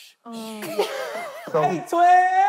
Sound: laughing

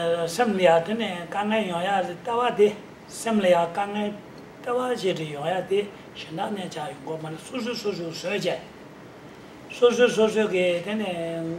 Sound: speaking in foreign language

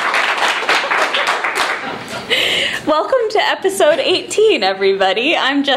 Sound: applause; laughing

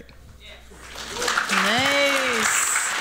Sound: applause

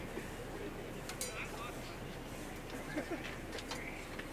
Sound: chattering; laughing

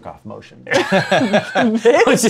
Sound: laughter

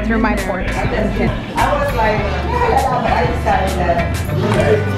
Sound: chattering

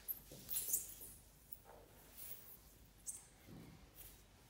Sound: floor squeaks

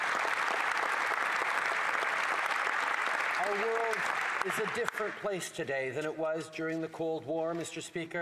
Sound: applause

